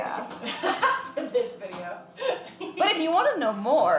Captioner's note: laughing